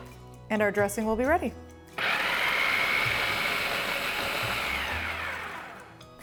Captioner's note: food processor running